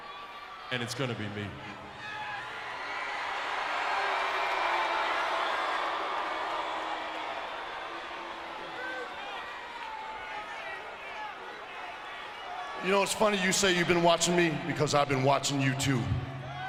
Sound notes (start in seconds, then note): 2.9 crowd cheering; 8.2 crowd chattering